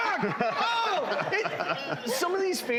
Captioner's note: laughing